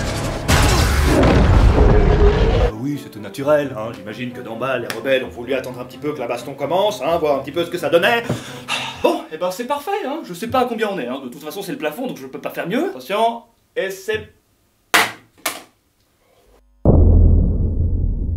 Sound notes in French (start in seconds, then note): 0.0 Explosion; 8.3 soupirs; 14.9 bruit du téléphone qui tombe